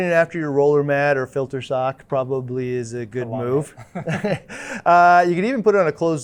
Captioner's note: chuckles